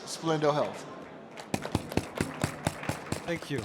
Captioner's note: applause